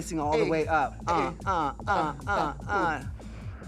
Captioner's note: both cheering